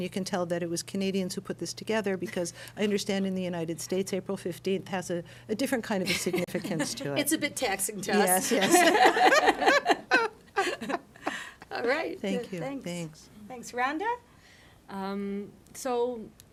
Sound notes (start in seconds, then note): 8.4 laughter